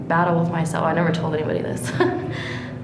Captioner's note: laughs